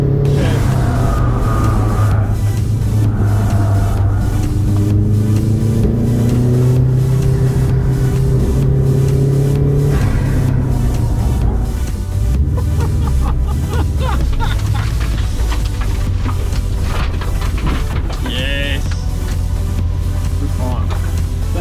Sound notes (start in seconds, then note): 8.0 engine rumbling; 13.1 laughing